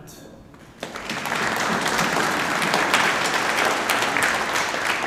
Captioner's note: audience applauding